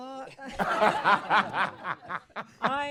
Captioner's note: laughter